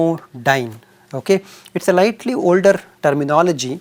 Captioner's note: thermal noise